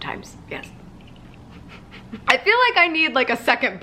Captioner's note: chuckling